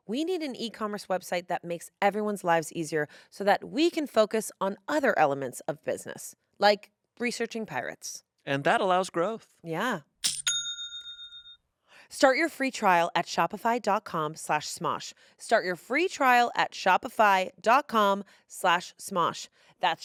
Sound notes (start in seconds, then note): 10.3 bell chimes